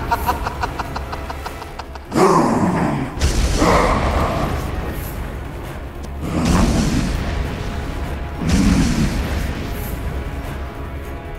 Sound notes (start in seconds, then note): 2.2 laughs; 4.9 thudding